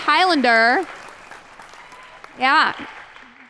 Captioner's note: applause